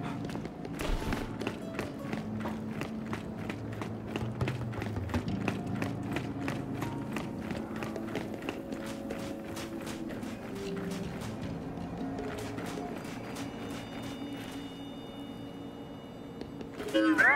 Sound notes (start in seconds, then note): 5.9 footsteps